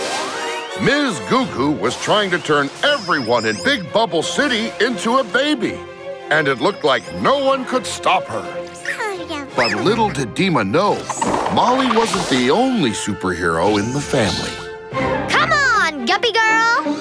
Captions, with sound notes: Ms. Goo Goo was trying to turn everyone in Big Bubble City into a baby, and it looked like no one could stop her. [cooing] But little did Deema know, Molly wasn't the only superhero in the family. Come on, Guppy Girl!